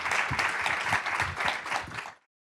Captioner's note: applause